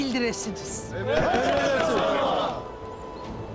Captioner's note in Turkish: Hep bir ağızdan